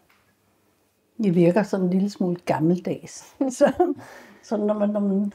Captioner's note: chuckles